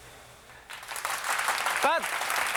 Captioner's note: applause